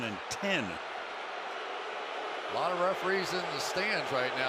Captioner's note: crowd booing